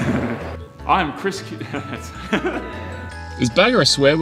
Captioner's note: laughs